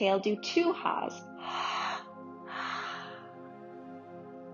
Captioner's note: exhaling deeply